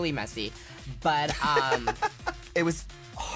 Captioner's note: laughs